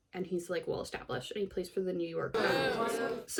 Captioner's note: booing